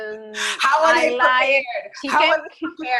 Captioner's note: laughs